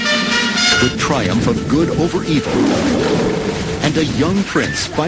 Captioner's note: trumpeting; roars